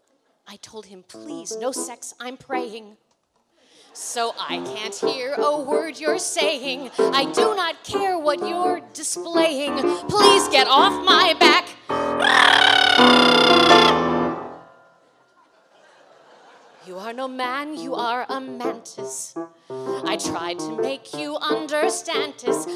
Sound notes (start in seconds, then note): 3.9 laughter; 12.0 making loud trill noise; 15.1 laughter